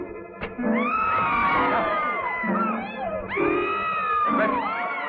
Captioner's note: shouting